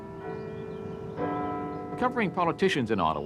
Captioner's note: bells chiming